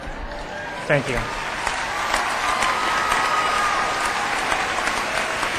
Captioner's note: applause